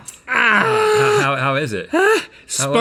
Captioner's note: groaning